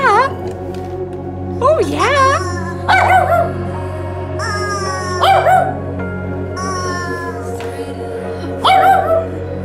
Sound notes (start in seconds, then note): 0.3 grumbling; 2.8 dog barking; 4.3 honking; 5.2 dog barking; 5.2 dog growling; 6.6 honking; 8.6 dog barking